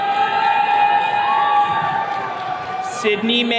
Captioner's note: attendees cheering